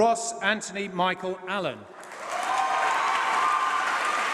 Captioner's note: applause